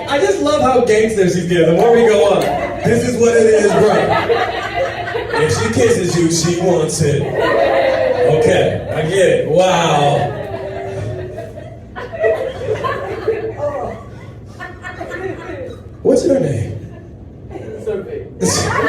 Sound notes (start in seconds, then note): 4.5 audience laughs; 7.6 audience laughs; 12.3 audience chuckles